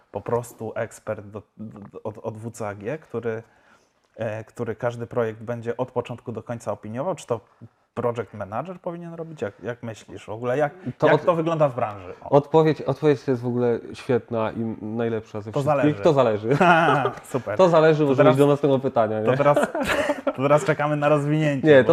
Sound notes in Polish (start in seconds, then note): 16.4 śmiech; 19.3 śmiech